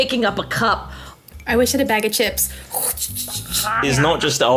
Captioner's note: imitates bag rustling